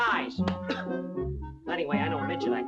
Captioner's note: coughs